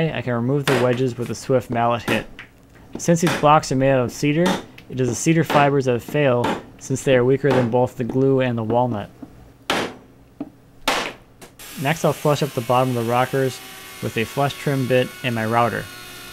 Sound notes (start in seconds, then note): 9.7 pounding